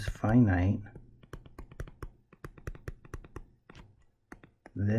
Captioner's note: tapping Sounds